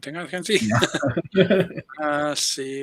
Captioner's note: laughs